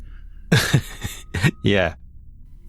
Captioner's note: laughing